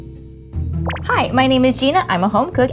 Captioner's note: gentle music; words popping